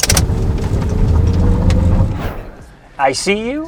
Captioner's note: car revving